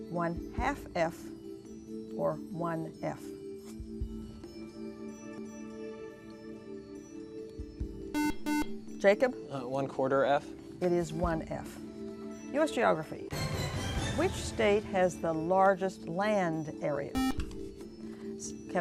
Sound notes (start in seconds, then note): 5.1 whispering; 8.1 buzzer; 17.1 buzzer